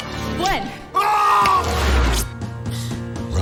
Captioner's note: shouting